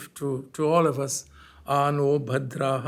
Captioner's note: hindi